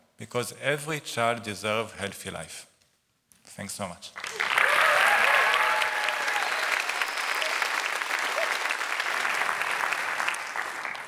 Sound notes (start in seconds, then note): 4.1 applause